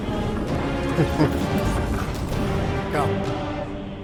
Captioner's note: character laughs